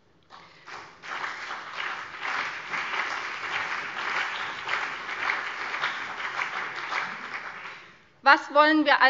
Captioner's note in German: Beifall CDU und vereinzelt BÜNDNIS 90/DIE GRÜNEN